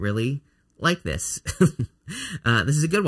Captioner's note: laughing